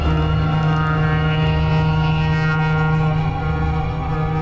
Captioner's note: horn blowing